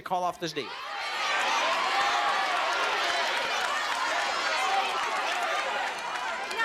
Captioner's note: yelling